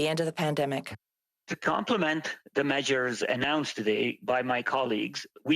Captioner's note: speaking French